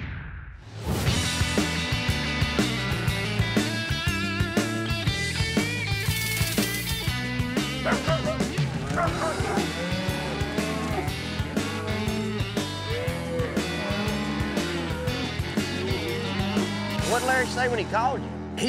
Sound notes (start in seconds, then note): 7.8 dog barking; 9.2 cows moo